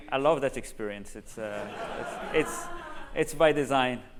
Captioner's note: laughter